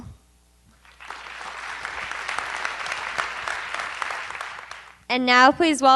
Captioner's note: applause